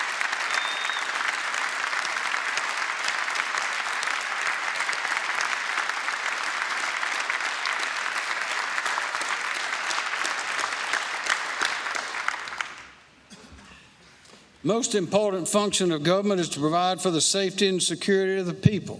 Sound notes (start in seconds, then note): 0.0 cheers and applause; 8.0 applause